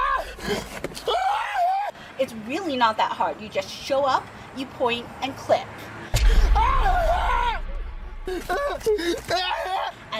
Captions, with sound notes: Ah. Ah. - It's really not that hard, you just show up, you point and click. - Ah. (crying) Ah.